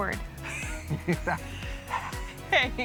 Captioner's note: laughing